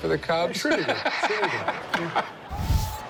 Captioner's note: laughs